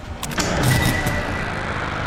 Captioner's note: click!